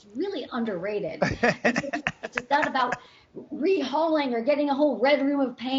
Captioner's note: laughing